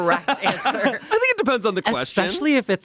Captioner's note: everyone laughs